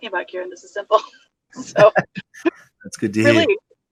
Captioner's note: both laugh